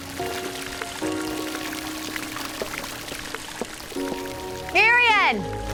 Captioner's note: water gurgling, splashing